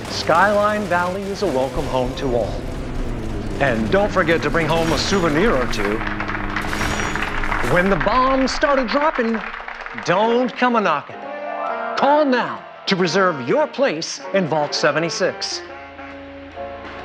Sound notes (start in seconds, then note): 6.2 audience applauding